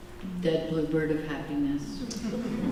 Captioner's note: laughter